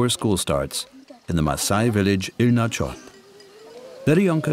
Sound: people chattering

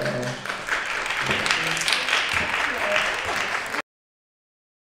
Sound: applause

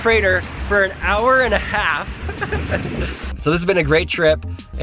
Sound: laughs

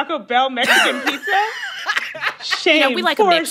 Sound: laughter

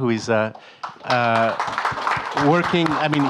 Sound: audience applauding

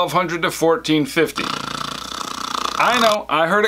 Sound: snore

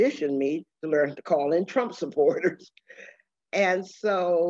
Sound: laughs

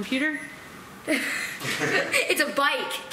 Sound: laughter

